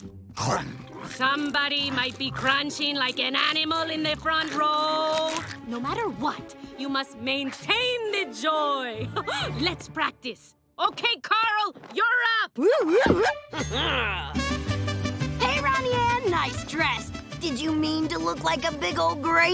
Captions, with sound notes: Somebody might be crunching like an animal in the front row. No matter what, you must maintain the joy. [chuckles] Let's practice. Okay Carl, you're up! [chuckles] Hey Ronnie Anne. Nice dress. Did you mean to look like a big ol' grape?